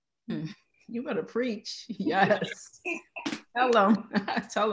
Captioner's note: laughing